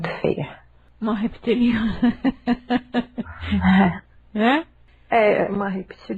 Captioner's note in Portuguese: Risadas